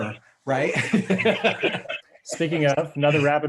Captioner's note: laughing